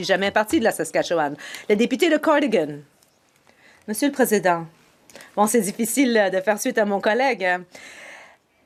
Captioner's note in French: voix de l'interprète; voix de l'interprète